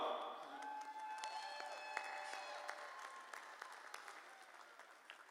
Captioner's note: applause